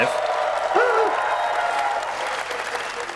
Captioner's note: applause